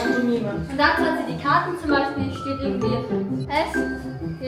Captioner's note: speaking German